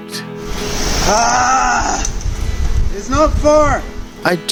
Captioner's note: yelling